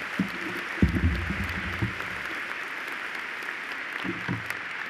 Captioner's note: applause